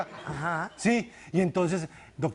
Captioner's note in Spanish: risas del público